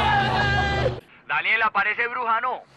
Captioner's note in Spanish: Gritos y exclamaciones